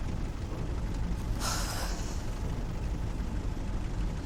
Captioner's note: sighs